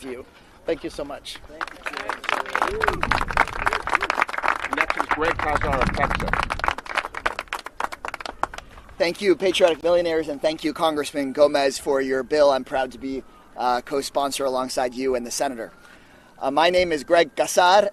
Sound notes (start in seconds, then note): 4.5 applause